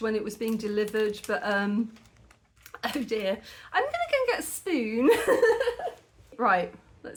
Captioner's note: laughing